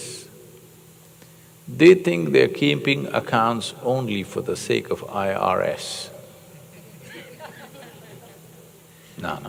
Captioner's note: laughter